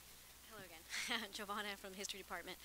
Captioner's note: laughing